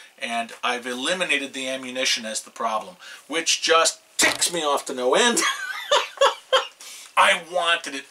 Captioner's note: laughs